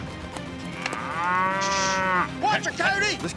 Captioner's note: mooing